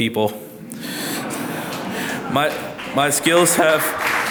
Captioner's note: audience laughs